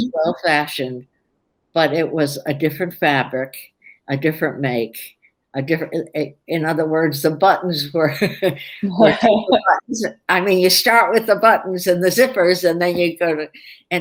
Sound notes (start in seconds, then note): 8.2 laughter